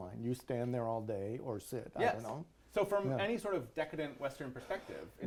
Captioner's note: none